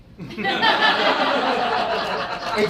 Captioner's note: audience laughs